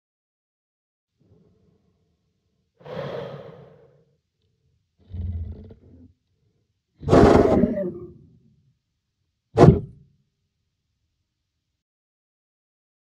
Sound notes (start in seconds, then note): 0.0 sound of wild creature